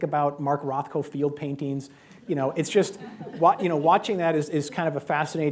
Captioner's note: laughter